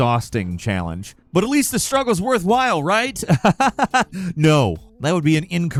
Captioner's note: laughs